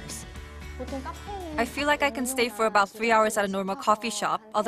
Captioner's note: Korean